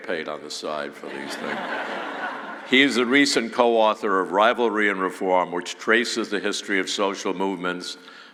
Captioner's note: laughing